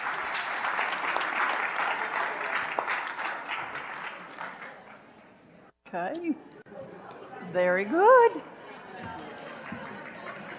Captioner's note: applause